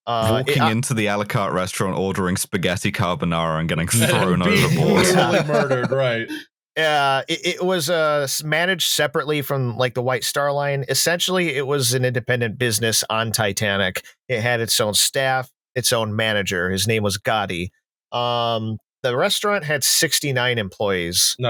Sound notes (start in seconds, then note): 6.5 laughter